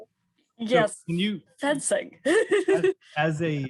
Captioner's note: laughs